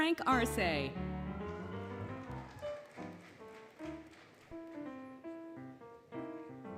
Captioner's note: applause, Cheering, Music